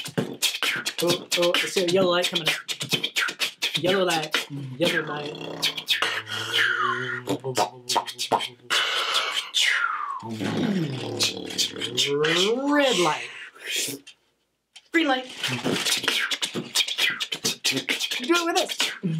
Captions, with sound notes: Oh, oh, I see a yellow light coming up Yellow light, yellow light. (beatboxing slow) Red light. (fast inhale) Green light. (beatboxing fast) Do it with us!